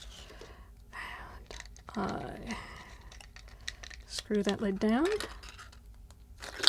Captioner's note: exhales